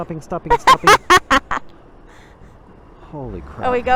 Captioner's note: laughs